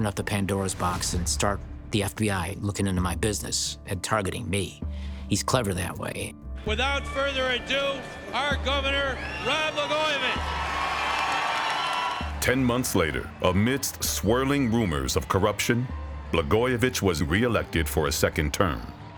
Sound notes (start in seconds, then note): 9.7 audience applauding; 9.7 audience cheering